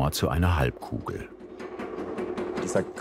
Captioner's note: whirring, rattling